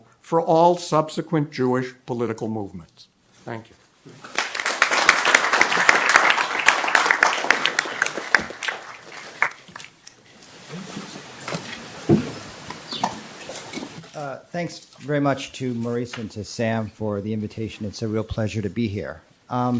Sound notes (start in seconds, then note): 4.2 audience applauds